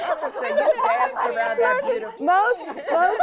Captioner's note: laughter